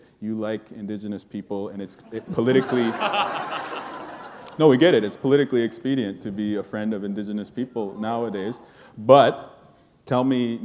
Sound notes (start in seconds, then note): 2.1 laughter